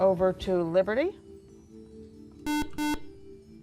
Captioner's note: beeping